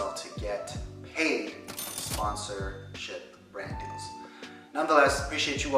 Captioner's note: cash register dings